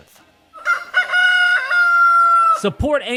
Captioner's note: rooster crows